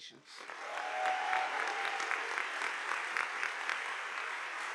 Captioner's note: audience applauding